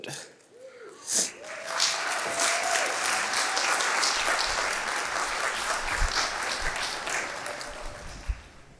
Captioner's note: applause